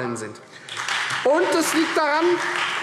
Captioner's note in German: Beifall Freie Demokraten